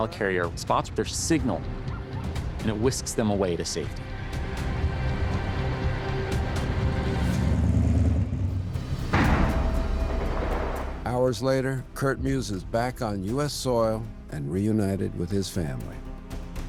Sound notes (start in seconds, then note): 4.5 suspenseful music; 7.4 car rumbling; 7.4 explosion